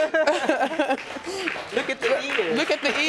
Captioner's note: laughing